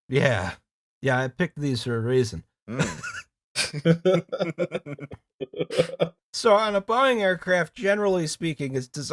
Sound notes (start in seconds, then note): 3.6 laughter